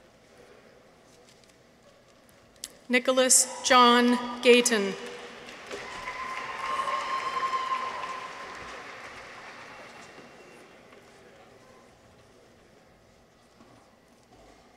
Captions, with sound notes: Nicholas John Gayton. -(audience applauds) -(people cheer)